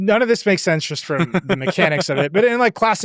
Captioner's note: laughs